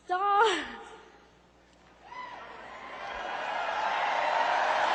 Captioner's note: cheering